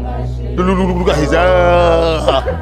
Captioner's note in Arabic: مارك يبكي